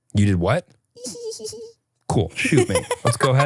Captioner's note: giggles; laughs